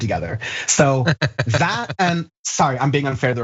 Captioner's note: laugh